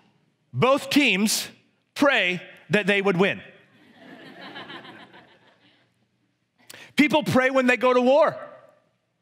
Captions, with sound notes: Both teams pray that they would win. (congregation laughs) People pray when they go to war.